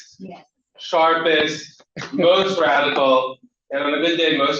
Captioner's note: laughter